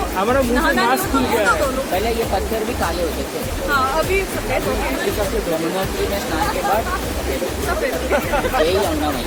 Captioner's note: laugh